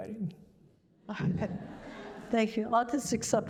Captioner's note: laughter